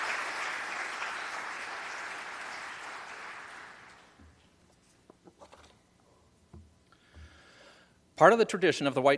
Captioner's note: applause